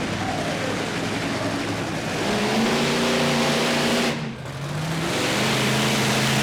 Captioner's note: monster truck engine roars